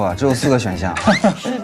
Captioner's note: laughs